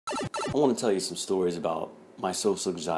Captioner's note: warp sound